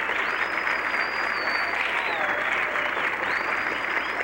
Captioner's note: applause; whistles